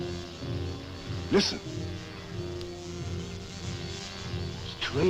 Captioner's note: wasps buzzing